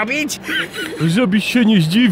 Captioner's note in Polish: śmiech Wojtasa